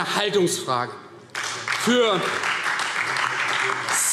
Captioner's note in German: Beifall Freie Demokraten und DIE LINKE